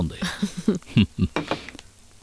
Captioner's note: chuckles